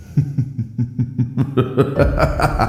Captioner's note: laugh